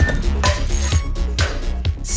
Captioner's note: cheerful clanging